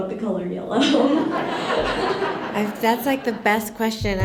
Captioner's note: laughter